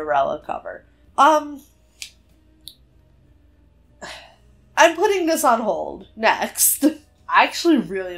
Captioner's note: sighs